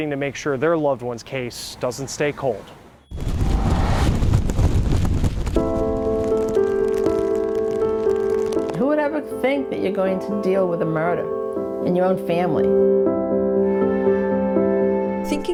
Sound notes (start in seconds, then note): 3.1 wind blowing; 4.4 rain falling; 5.1 gentle music; 13.1 gentle music continues